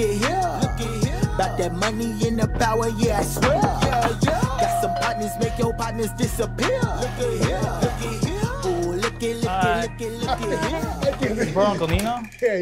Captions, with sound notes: (door knocking) (door bell ringing) - Hi. - Hi. - You brought Uncle Nino?